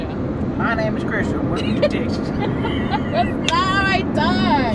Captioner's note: both laugh